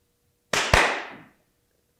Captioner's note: clap, clap